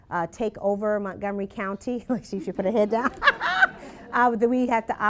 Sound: laughter

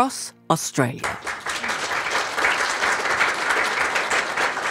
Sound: applause

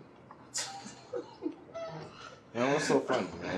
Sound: Dre laughing

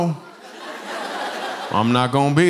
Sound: laughter

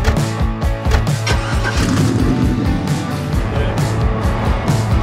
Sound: car engine starts; upbeat music

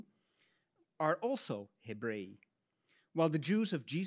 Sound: speaks in Latin

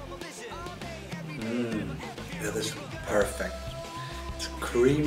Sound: mmmh

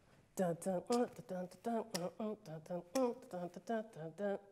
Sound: mouth beat sounds

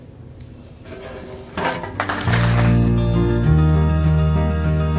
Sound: audience applause

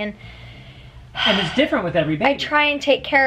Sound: sigh

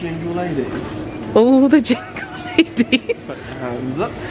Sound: laughs

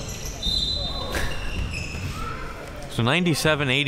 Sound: whistle

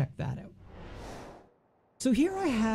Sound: whooshing

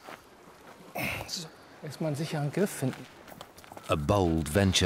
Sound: speaks German

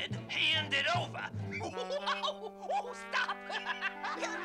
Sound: giggling

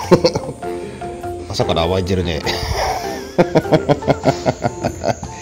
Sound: laughs

